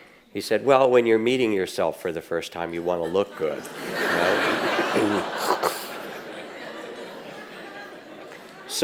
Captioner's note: audience laughs